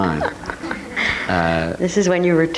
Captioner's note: audience laughing